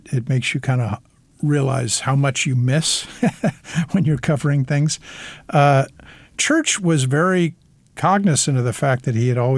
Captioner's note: laughter